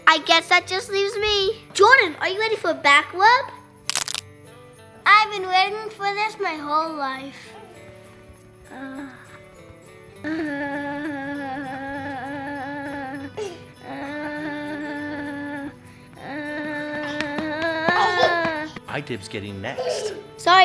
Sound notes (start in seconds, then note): 3.8 knuckles cracking; 10.2 moans